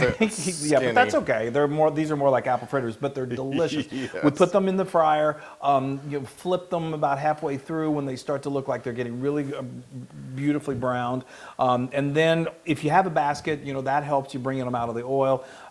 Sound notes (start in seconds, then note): 3.6 laugh